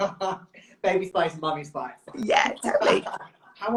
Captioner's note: laughs